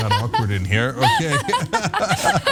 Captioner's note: laugh